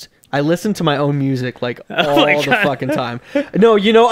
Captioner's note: laughing